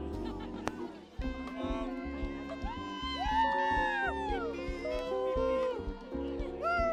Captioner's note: people cheering